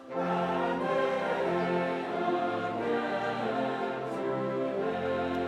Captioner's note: none